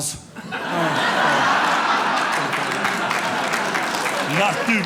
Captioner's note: audience laughing